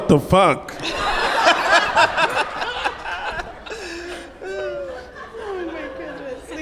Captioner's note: panel and audience laugh